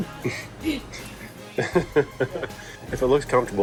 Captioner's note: chuckling